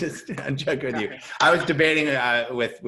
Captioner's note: chuckles